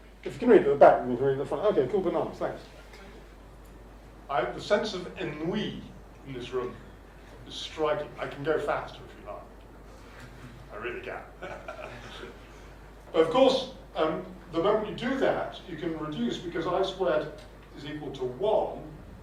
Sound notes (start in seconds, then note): 11.5 chuckle